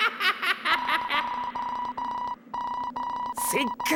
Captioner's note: alarm beeping